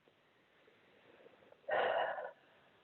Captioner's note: sigh